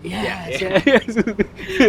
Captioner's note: laughs